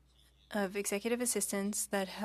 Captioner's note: speaking French